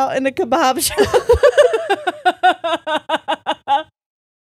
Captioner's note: all laughing